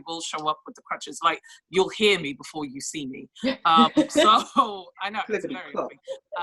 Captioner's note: laughs; laughs